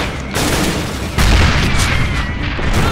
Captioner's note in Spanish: explosión